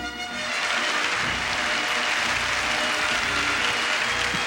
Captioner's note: audience clapping